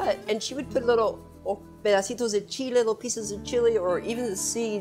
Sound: speaking in Spanish

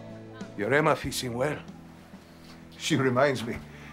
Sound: Spanish spoken audio

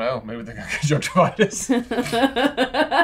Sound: laughs; all laughing

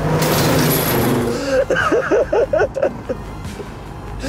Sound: laughs

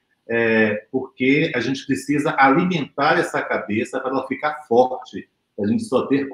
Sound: speaks portuguese

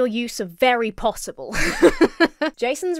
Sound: laughs

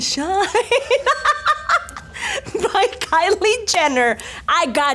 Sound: laughs

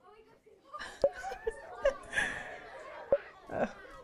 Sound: laughs

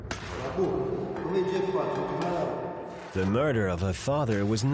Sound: speaking in Italian

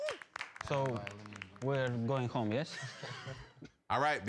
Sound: laughing

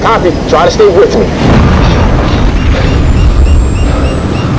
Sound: radar beeping

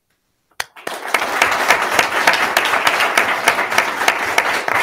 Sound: attendees clapping

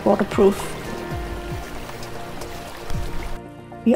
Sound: sound of rushing water

